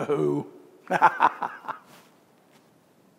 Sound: laughs

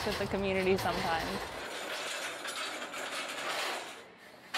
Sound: metal clattering

